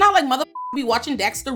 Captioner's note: beep